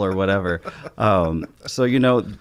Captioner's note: chuckles